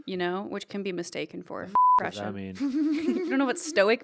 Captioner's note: beep; giggling